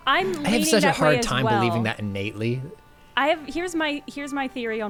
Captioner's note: pat